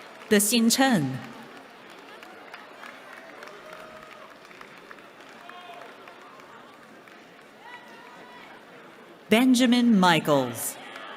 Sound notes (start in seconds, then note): 0.0 applause